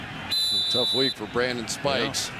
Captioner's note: whistle blows